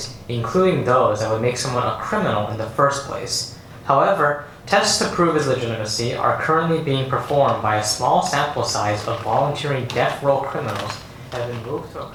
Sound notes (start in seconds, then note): none